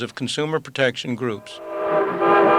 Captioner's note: train whistle